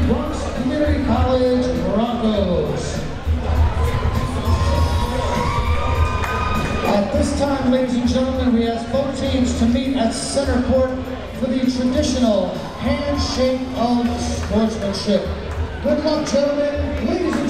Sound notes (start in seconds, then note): 3.2 crowd members cheering